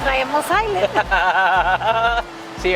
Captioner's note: laughs again in Spanish